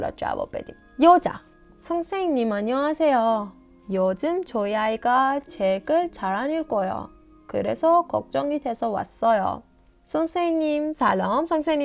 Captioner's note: Korean audio